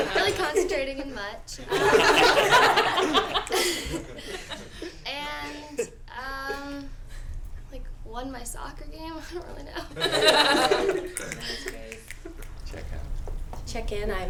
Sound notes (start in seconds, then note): 1.6 laughter; 9.7 laughter